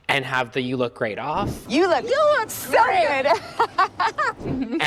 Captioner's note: laughs